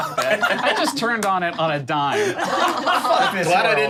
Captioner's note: group laughing